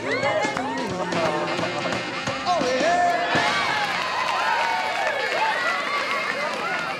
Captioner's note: audience applauding; audience cheering